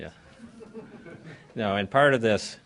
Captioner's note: laughter